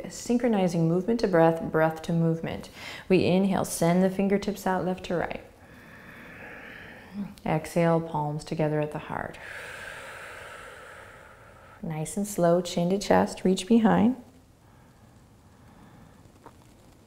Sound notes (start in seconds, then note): 5.7 inhaling; 9.4 exhaling